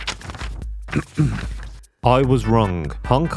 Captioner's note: rustling papers; clears throat